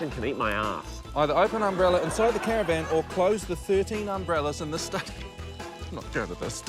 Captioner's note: scoffs